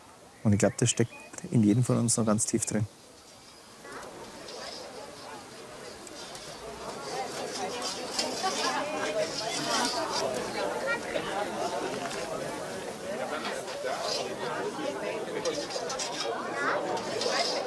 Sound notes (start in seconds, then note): 3.8 babble of voices